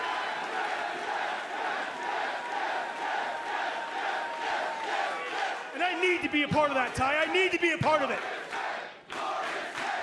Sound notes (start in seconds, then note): 0.0 cheers and applause; 3.3 fans chanting